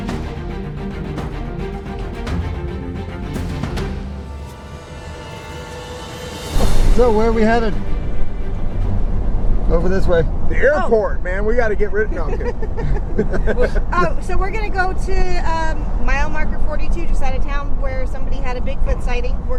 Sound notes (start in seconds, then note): 12.2 laughing; 14.0 chuckles